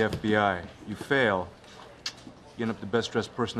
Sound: clicking of tongue

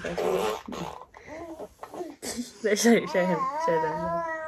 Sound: baby noises

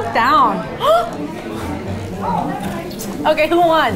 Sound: gasps

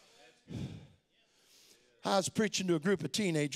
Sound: crowd

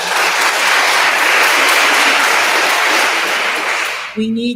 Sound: attendees applauding; attendee cheers

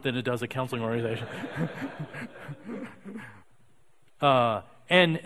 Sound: audience laughing

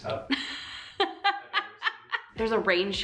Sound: laughs

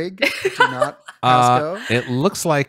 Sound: laughs

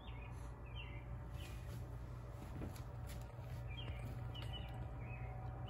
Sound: birds chirping continues

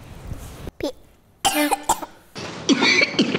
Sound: coughing

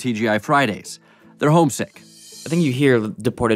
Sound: whooshing

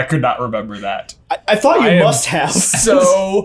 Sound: laughing

